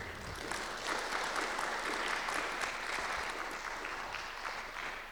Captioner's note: audience applauds